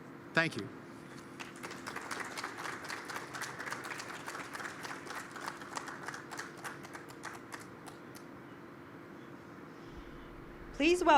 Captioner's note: applause